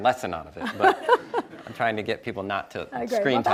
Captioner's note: laughs